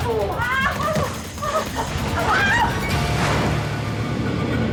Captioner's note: woman screaming